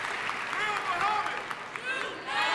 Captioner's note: shouting in audience